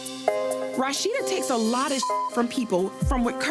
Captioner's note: beep